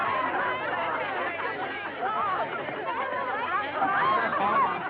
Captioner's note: chatter